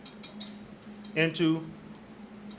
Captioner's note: whisk scrapes